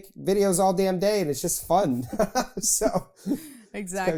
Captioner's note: laughs